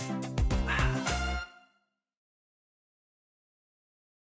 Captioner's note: upbeat music; exhales